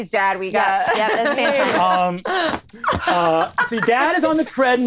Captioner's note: laughing